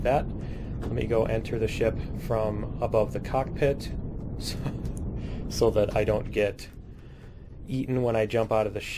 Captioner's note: laughs